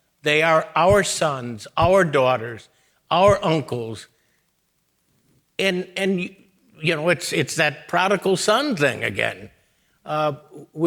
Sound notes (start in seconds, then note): none